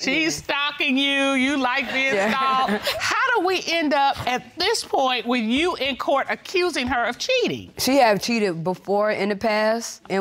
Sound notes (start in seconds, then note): 2.0 chuckles